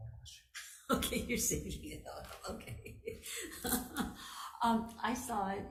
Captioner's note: laughing